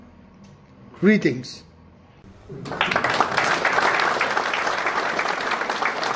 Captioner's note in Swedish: Applåder